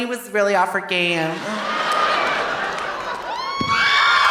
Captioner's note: audience laughing; audience cheering